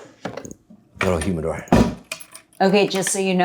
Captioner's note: drawers whooshing; door thudding